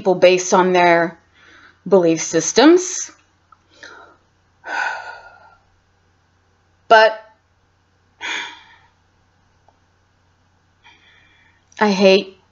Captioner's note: sigh